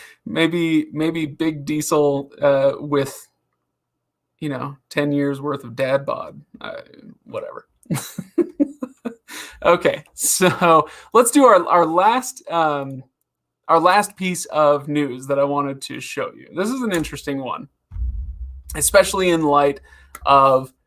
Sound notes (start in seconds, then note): 8.8 laughs